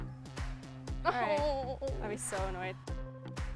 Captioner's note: disappointed groan